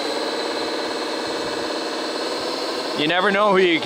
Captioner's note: bulldozer motor rumbling